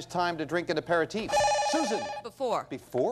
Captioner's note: bell rings